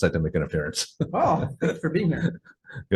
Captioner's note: chuckling